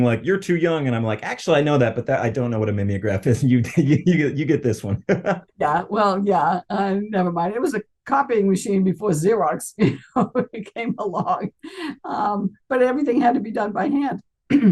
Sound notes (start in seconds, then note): 4.7 laughs